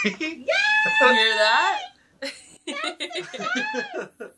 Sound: laughs

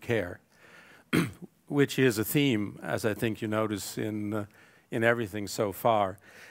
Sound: cough

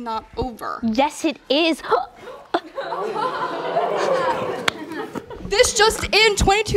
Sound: audience laughter

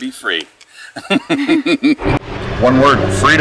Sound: laughs

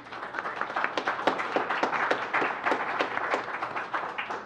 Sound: audience applauds

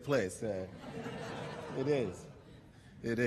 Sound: laughter

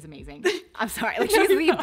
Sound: laughs

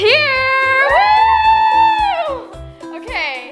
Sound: cheering

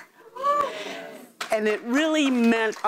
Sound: audience cheers

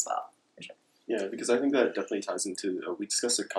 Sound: murmurs

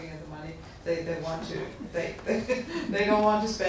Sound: laughs

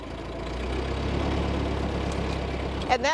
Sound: engine revs

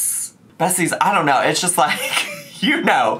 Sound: laughs

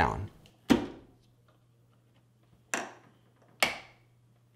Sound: hinge snapping

